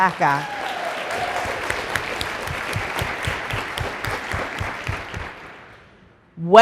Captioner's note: applause